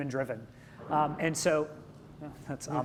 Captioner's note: clatter sound